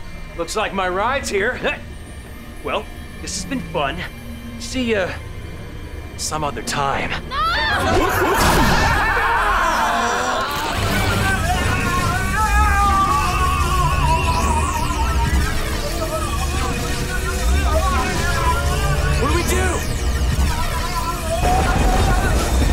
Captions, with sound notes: Looks like my ride's here. Well, this has been fun. See ya... some other time. No! [laughing] [screaming] [screaming] What do we do?! [screaming]